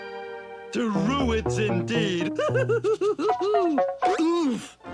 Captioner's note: laughs